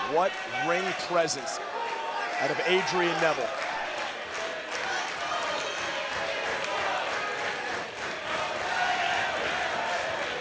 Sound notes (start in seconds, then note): 3.6 crowd chants "Ole, ole ole ole"